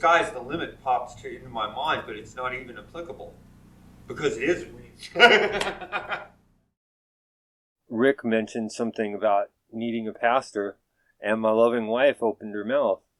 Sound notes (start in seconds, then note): 5.0 laughing drowns out speaker